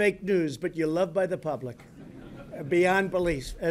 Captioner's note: laughter